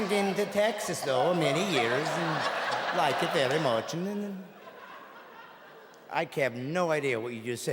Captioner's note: audience laughing